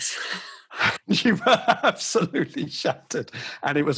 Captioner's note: laughs